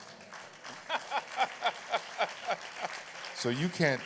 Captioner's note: applause